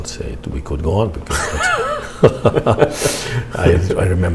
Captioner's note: laughter